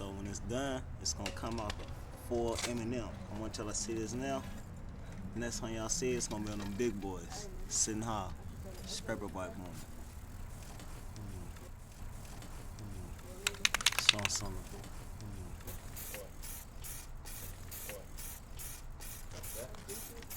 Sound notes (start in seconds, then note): 13.5 can knocking; 15.9 paint hissing